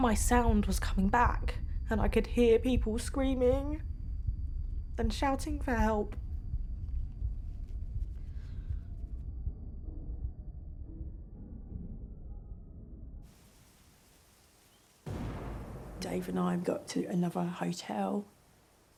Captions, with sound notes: my sound was coming back and I could hear people screaming and shouting for help. [distant explosion thumps] Dave and I got to another hotel.